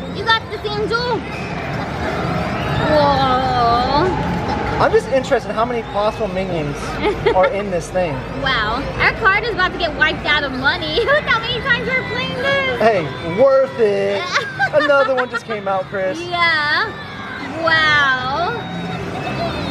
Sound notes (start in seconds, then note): 14.2 laughs